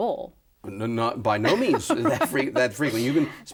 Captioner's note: laughs